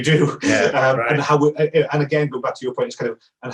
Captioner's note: chuckles